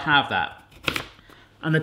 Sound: chopping noise

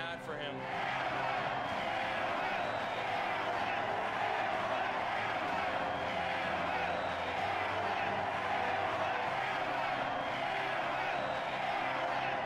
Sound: crowd chanting "Hamlin"

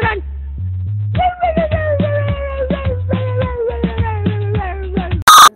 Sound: In Chacarron Dog's voice

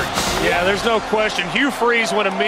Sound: voiceover

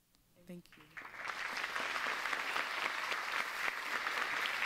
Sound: audience applauds

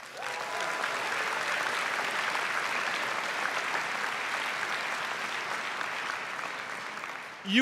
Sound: applause

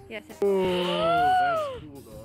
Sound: gasp

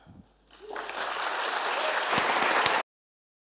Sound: applause

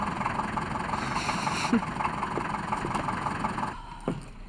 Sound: chuckles

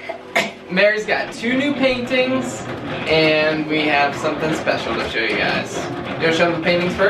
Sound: cough

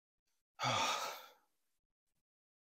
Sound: sigh

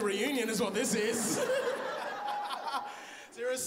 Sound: laughs

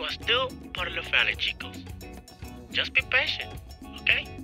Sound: voiceover

